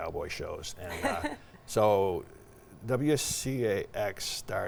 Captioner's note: laughing